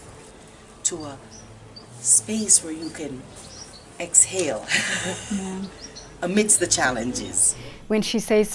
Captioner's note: laughter